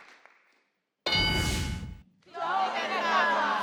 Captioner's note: ding